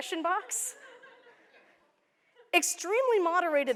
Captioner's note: laughter